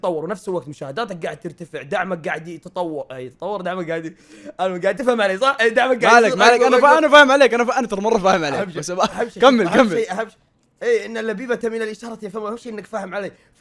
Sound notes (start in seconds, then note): 4.7 laughs